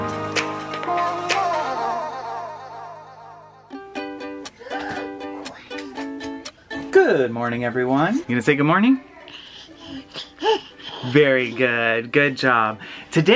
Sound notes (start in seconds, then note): 4.4 gasps; 9.0 coos